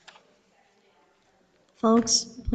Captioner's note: audiences chattering